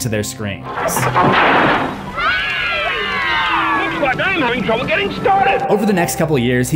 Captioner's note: explosion; children screams